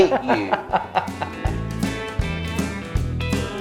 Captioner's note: laughs